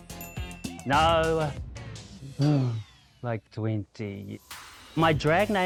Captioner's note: sighs